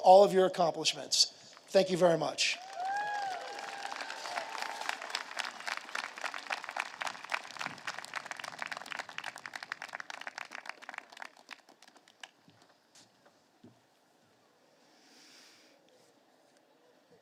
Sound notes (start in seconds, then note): 5.4 applause